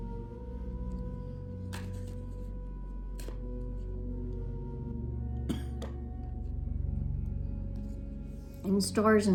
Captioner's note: cards shuffling